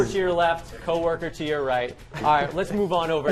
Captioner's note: laughter